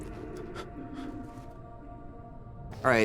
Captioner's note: distant monster growl; Daniel breathing shakily